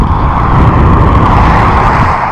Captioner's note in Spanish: ruido de coches